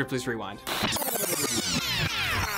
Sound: film rewinding

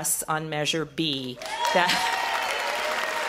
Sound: audience cheers

